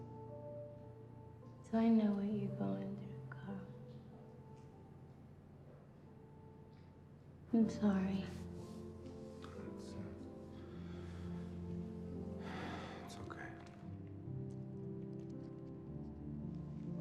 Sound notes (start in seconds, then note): 11.3 sighs